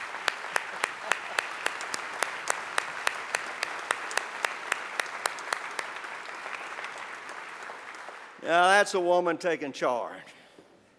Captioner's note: applause